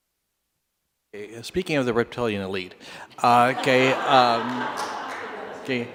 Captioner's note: laughter